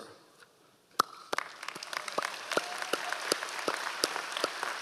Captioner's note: applauds